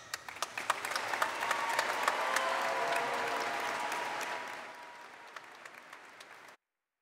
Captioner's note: applause